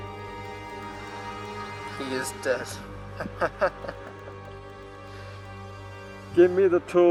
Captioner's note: maniacal laughter